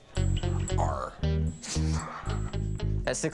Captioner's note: laughs